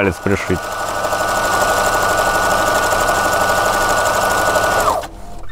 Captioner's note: loom making noise